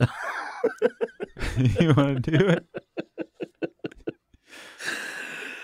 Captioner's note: laughing